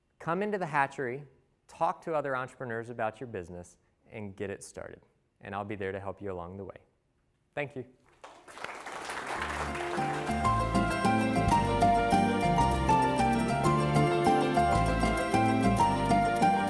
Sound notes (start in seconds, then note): 8.0 applause